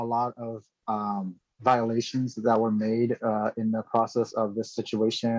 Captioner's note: speaking chinese